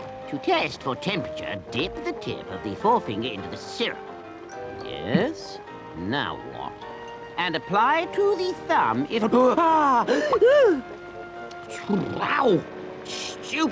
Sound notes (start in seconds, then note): 10.0 Toad gasps